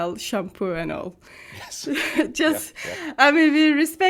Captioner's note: chuckles